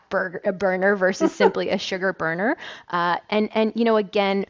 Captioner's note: laughing